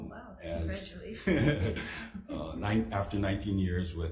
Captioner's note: chuckling